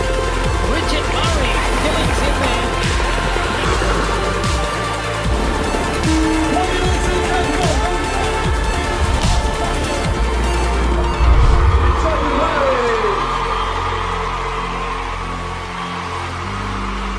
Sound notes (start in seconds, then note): 11.7 cheering; 13.4 cheering